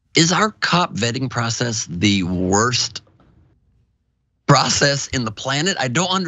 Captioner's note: laugh